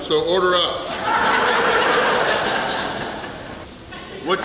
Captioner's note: laughing